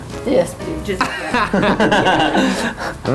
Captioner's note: laughing loudly